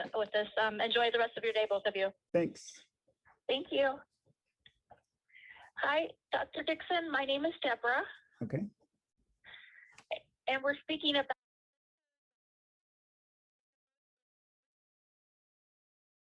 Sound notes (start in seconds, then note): 3.1 A new female voice on the phone; 11.8 sound muted